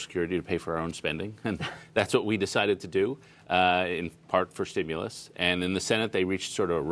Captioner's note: laughter